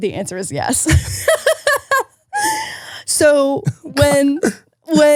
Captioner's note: laughing